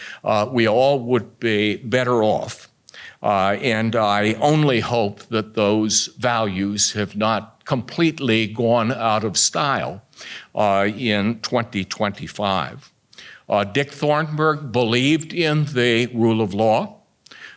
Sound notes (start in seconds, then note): none